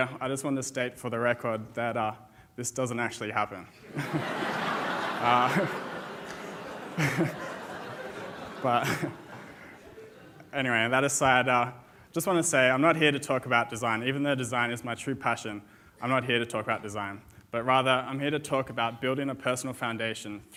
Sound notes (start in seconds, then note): 3.6 chuckles; 3.8 audience laughs